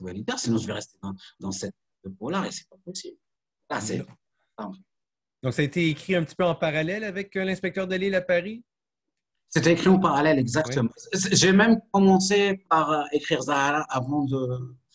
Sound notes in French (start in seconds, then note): 4.2 coupure audio